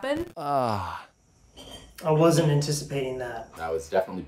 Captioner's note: banana moans